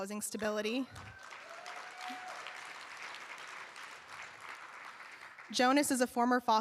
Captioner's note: cheers and applause